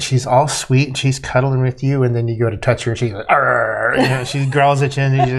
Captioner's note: growling sounds